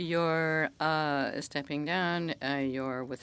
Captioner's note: speaking French